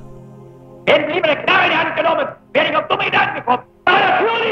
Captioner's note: German spoken audio